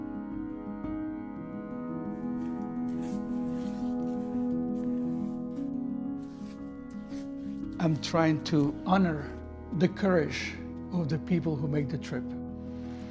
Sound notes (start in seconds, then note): 0.2 somber music; 2.3 paintbrush swishing